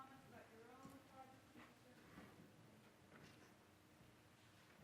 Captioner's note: speaking off mic